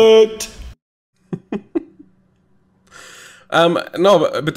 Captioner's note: chuckles